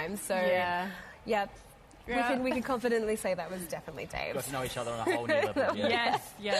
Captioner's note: laughter